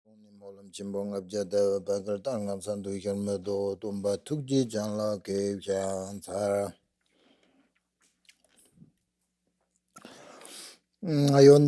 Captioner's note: tibetan language